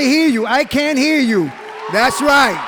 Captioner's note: cheering